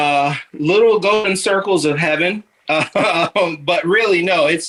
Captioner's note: chuckling